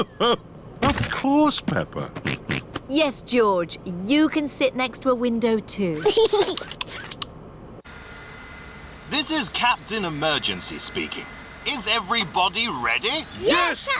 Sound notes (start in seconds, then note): 2.7 snorts; 6.0 giggles